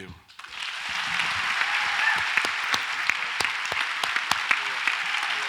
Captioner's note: audience applauds and cheers